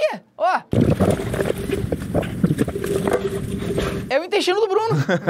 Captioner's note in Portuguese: blub blub blub blub blub blub